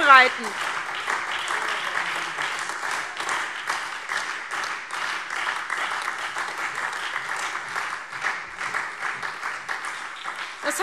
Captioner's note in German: Beifall SPD, AfD, Freie Demokraten und DIE LINKE